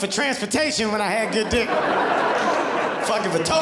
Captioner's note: audience laughing